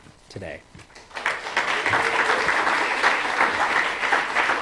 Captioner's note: applause